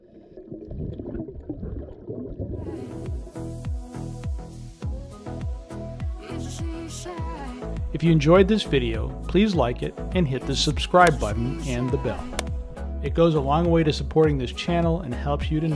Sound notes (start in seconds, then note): 0.0 bubble sounds